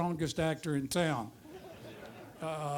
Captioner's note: audience laughter